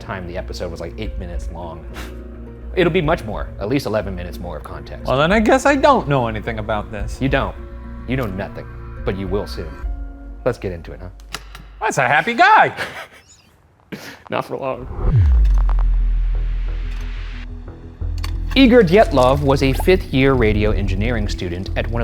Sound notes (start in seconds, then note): 12.2 laughs; 14.8 tense music